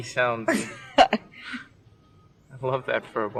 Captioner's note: laughing